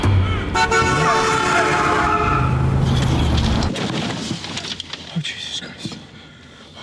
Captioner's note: horn honks; tires screech